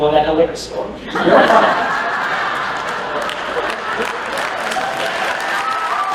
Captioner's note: laughter; applause